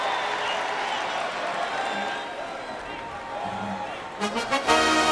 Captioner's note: cheering and applause